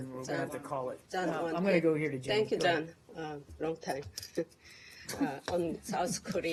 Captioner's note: laughter